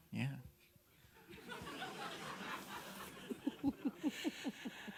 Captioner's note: audience laughing